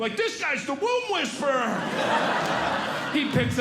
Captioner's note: audience Laughing